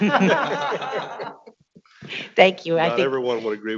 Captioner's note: people laughing